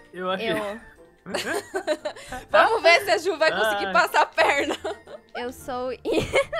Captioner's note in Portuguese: Risadas